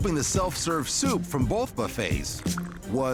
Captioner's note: slurping